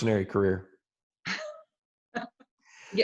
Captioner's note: laughs